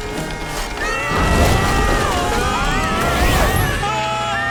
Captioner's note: screaming